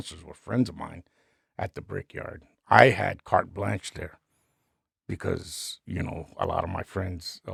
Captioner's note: none